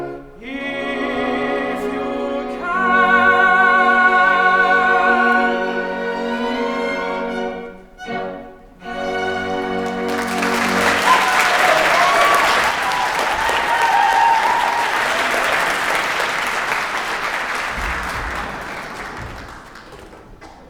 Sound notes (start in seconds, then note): 9.8 applause